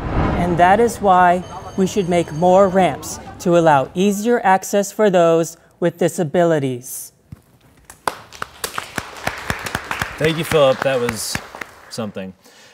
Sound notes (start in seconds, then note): 7.8 audience claps